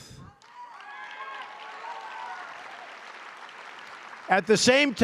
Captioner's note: applause